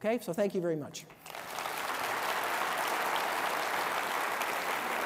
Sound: applause

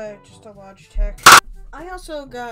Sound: ear-rape Clap

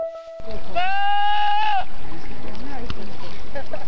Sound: goat yelling

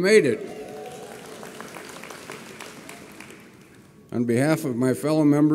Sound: audience applauds

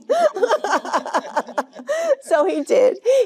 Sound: Jane laughing

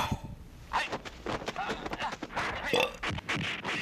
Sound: George exhales loudly; fighting sound effects; Georges burping

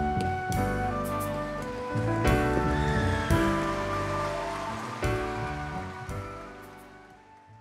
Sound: applause

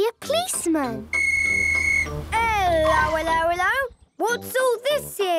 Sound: whistle blowing

